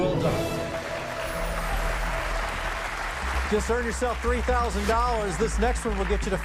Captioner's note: cheers and applause